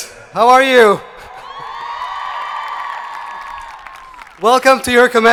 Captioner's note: audience cheering